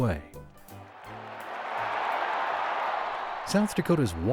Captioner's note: applause